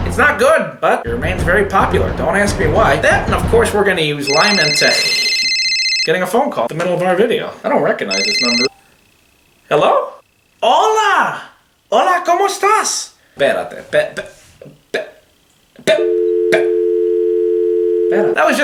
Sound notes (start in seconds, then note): 4.2 cell phone ringing; 11.0 speaking in Spanish; 15.9 cell phone beeping